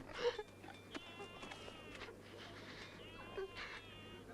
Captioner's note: Tracima sobbing